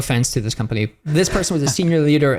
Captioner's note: laughs